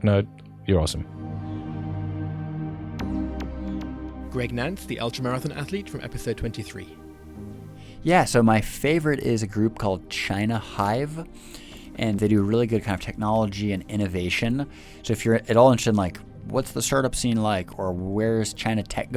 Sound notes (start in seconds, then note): 2.3 voiceover